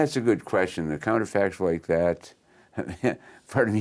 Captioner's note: chuckles